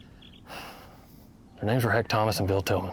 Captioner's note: Chris sighs